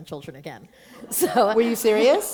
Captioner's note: laughter